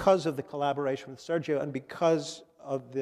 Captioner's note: none